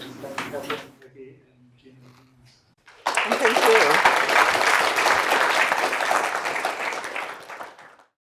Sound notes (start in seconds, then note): 2.8 applause